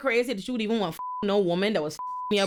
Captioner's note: beep